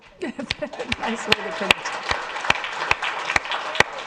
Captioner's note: audience applauds